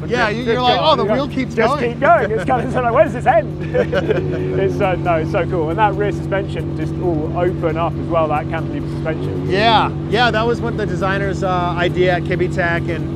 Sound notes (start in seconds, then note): 3.5 both chuckle